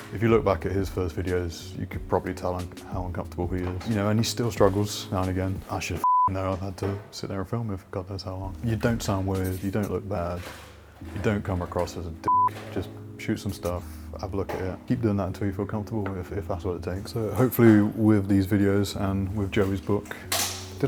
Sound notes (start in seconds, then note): 6.0 beep; 12.2 beep